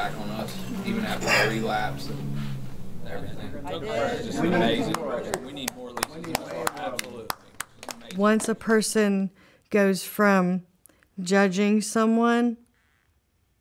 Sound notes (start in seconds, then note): 7.5 clapping